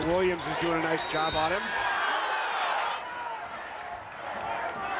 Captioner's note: whistle blows